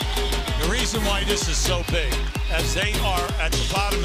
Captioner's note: cheers and applause